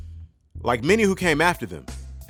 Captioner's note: voiceover